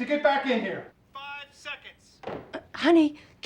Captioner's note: on phone